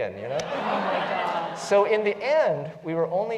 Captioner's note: laugh